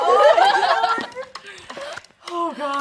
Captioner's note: laughs